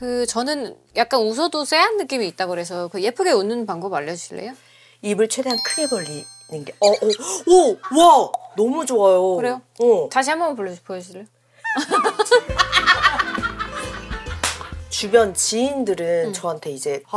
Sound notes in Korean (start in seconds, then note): 13.3 깔깔